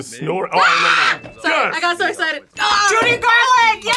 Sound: screams

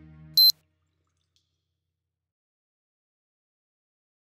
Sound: beeping

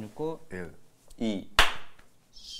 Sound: clap

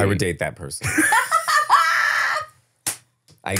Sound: foreign language

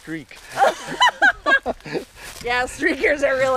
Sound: hard laughing

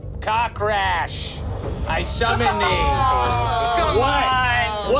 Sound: group groaning

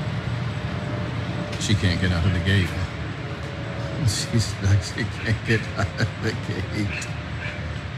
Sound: laugh

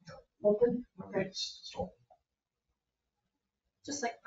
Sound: speaking distantly

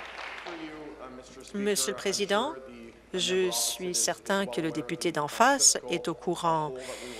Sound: applause

